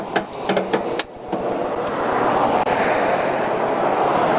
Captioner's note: vehicles roaring